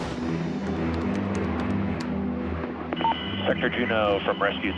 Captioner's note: keys typing